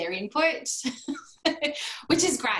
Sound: laughter

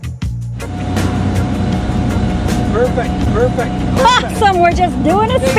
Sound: boat roaring

